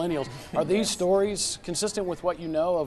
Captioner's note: laughs